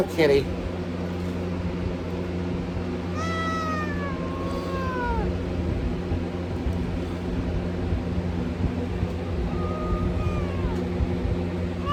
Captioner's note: Caprice meows in anger